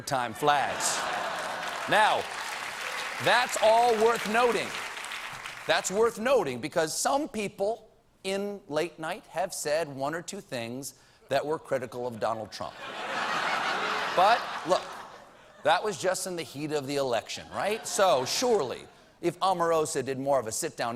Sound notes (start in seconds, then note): 3.7 applause